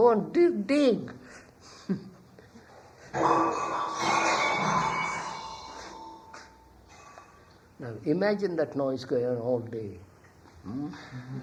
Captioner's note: laughs; sound of cutlery falling